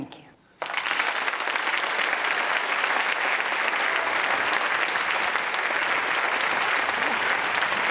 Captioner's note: applause